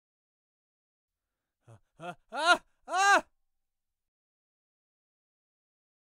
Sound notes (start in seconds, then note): 0.0 scream